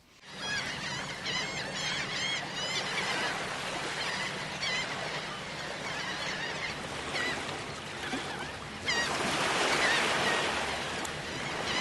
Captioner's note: seagulls Cawing